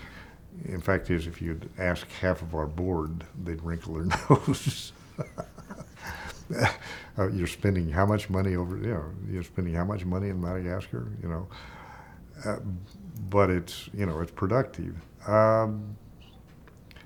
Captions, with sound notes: In fact, if you'd asked half of our board, they'd wrinkle their nose. (chuckling) You're spending how much money over there? You're spending how much money in Madagascar, you know. But it's, you know, it's productive.